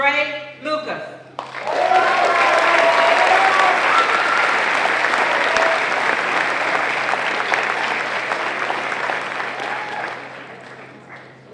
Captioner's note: applause